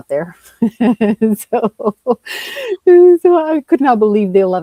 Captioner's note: laughs